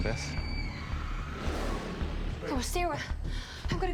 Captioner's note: dinosaur growling